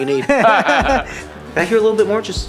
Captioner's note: group laughs